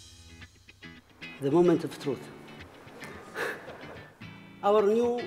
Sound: laughing

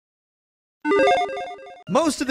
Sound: electronic chiming

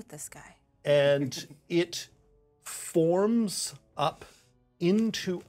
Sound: speaker chuckles

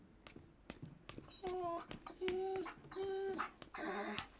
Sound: dog whining

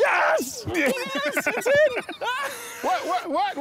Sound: men laughing

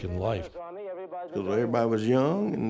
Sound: murmuring

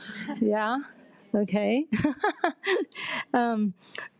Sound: laughs

